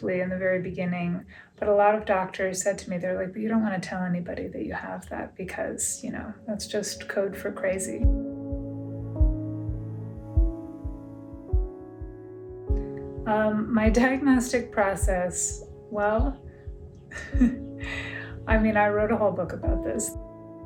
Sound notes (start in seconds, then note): 8.0 reflective music playing; 17.1 laughs